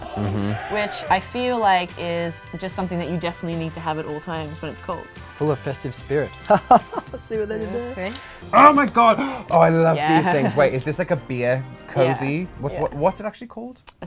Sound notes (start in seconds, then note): 6.5 laughing